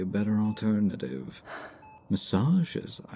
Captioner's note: sigh